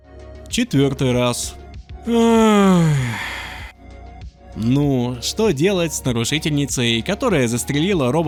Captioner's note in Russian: Глубокий вздох